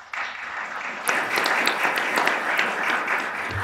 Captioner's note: applause